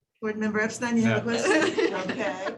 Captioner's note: laughter